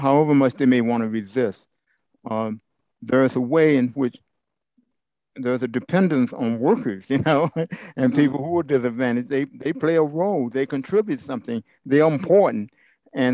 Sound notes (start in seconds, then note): 7.1 laugh